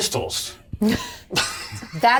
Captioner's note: all laugh